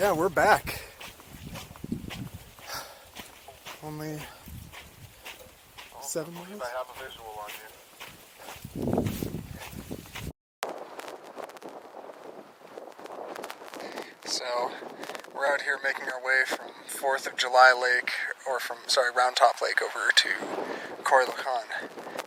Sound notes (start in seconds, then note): 5.7 over radio